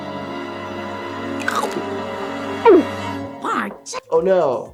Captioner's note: Bart swallows